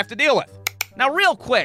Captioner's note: click